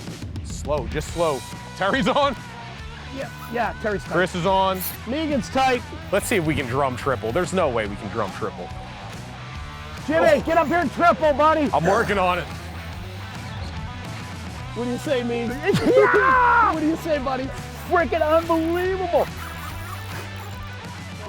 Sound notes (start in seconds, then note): 15.7 yells; 19.8 rock music